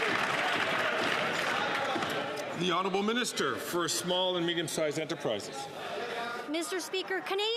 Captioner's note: some Applause